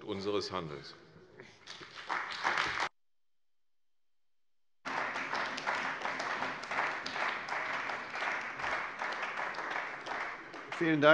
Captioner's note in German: Beifall bei der CDU und dem BÜNDNIS 90/DIE GRÜNEN